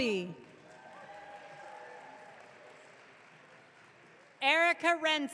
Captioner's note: audience cheering